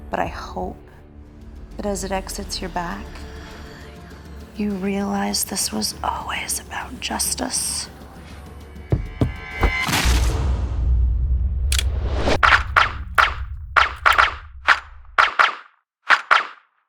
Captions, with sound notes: But I hope that as it exits your back, you realize this was always about justice. (dramatic music) (gun firing)